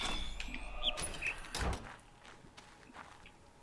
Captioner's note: bird chirps high-low